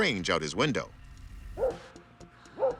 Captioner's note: dog barks